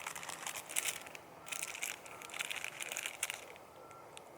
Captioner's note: wrapper crackling